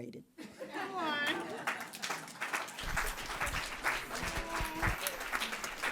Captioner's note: audience laughing